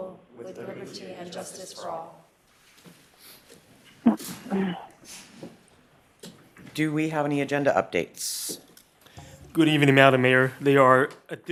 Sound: reciting the pledge of allegiance

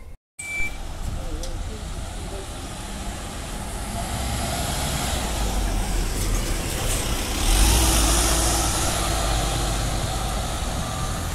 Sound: bus Noises

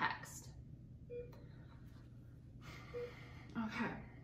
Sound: beeping

